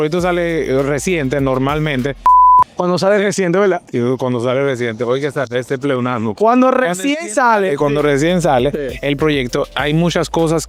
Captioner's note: laughs